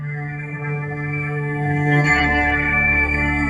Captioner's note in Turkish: Yaralıların iniltisi geliyor uzaktan